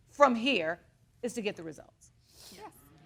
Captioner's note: sniffles